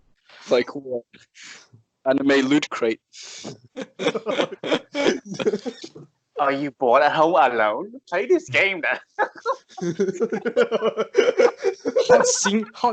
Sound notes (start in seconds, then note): 3.4 laughs as if he is being choked; 11.1 laughs in laughter